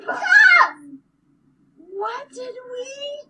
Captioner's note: child shouts